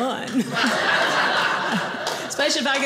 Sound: audience laughing

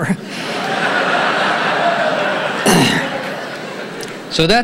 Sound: audience laughing

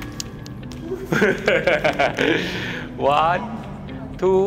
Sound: nervous laugh

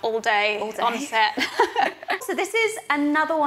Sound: laughs

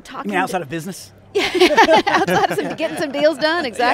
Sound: laughter

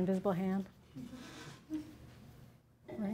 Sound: laughter

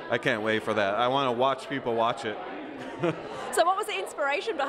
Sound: chuckles

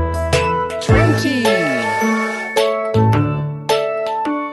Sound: train toots

